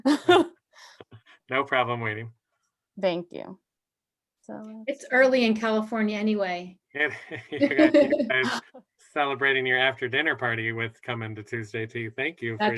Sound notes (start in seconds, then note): 0.0 laughter; 7.0 laughter